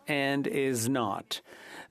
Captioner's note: speaking French